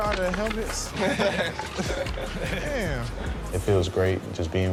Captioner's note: laughing